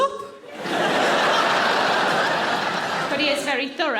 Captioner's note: audience laughing